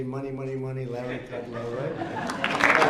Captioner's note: laughter